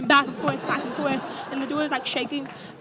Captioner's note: audience laughs